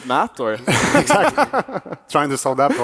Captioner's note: laughs